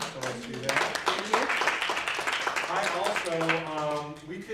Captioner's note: applause